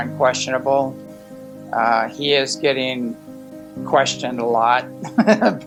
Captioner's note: laughs